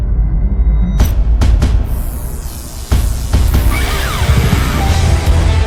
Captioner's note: dramatic drumbeat; electric crackling; dramatic rock music